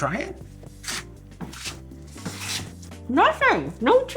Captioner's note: knife chopping